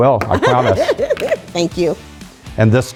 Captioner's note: laugh